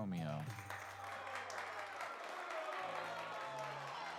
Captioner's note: clapping